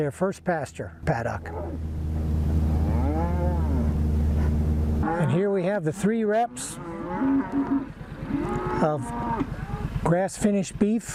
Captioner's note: cattle sounds